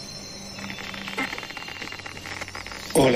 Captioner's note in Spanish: Estática